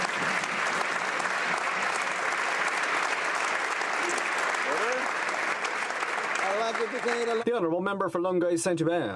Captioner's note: applause